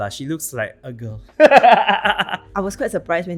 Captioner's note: both laughs